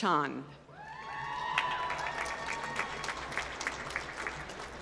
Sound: applause

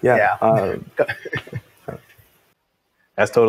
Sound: laughs

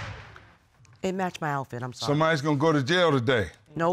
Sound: gavel banging

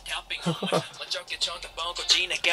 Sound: laughing

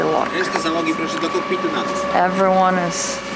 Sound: Sailors speaking Polish

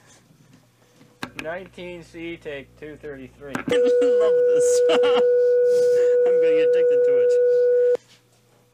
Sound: crewmember reading the clapperboard and Frank Oz laughing

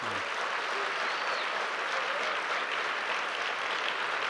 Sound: audience applauding

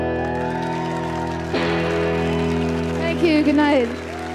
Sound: audience applauding and cheering

